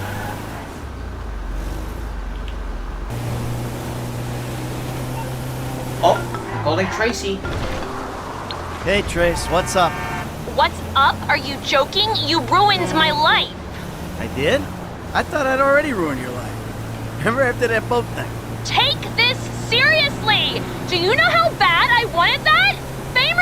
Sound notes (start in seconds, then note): 5.7 phone call